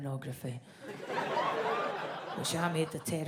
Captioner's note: audience laughs